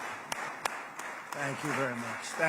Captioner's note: applause